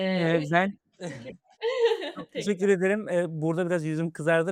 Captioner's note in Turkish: kahkaha